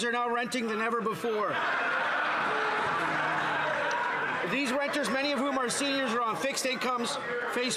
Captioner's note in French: voix de l'interprète